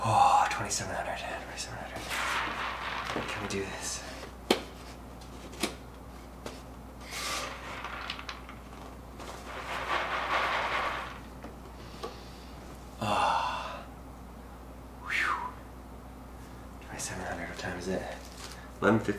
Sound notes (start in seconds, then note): 9.1 beads rustling; 12.9 sighs; 15.0 phews